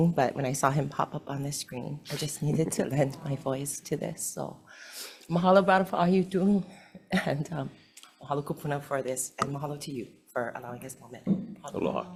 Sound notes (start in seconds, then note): 5.2 speaks foreign language